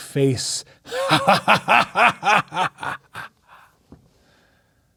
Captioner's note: laughing menacingly